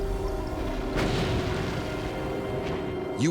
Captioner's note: gunfire